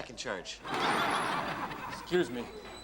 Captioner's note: audience laughs